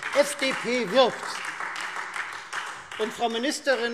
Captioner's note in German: Beifall Freie Demokraten